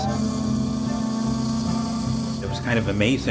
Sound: ship horn blows

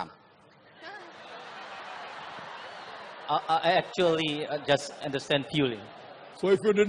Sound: laughters

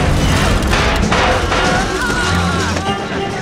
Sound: slow cackling

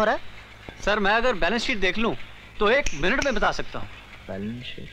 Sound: snaps finger

